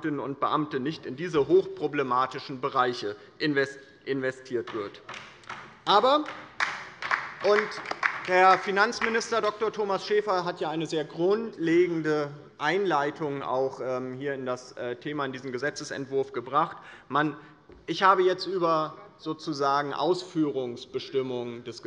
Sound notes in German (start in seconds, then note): 5.0 Beifall bei der LINKEN